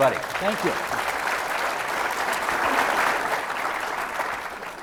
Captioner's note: audience applauding